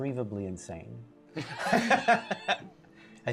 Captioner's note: laughing